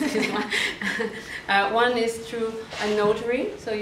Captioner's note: professors laugh